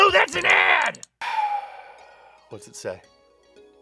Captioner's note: deeply sighs